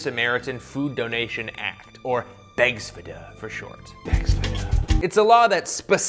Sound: dramatic sexy advertising whisper

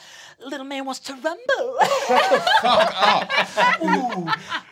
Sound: laughing

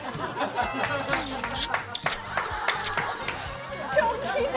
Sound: kissing

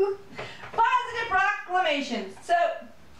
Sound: giggles

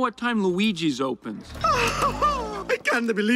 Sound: Luigi gasps excitedly

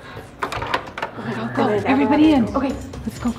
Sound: door opening

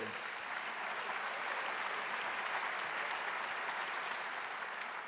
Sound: audience applauding

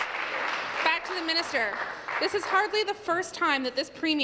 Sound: applause

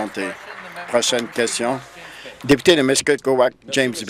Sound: applause

